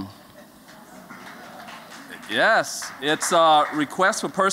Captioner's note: �applause�